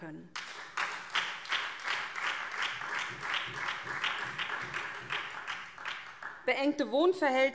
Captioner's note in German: Beifall SPD